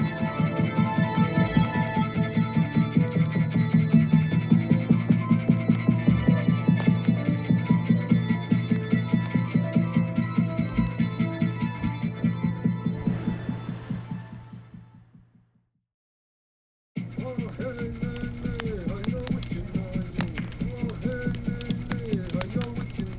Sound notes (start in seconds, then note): 17.0 chanting; 20.2 drumming, rattling